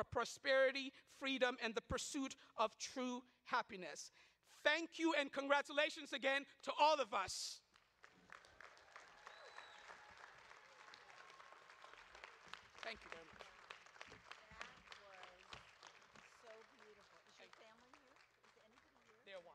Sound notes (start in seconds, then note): 8.1 audience claps